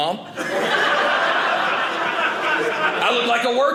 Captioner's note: audience laughing